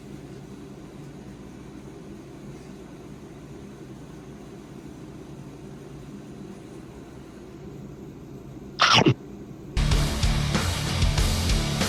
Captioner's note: chomp